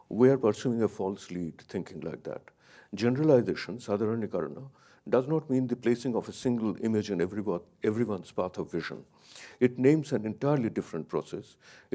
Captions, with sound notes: We are a pursuing false lead thinking like that. Generalizations, (speaks in a foreign language), does not mean the placing of a single image in everyone's path of vision. It names an entirely different process.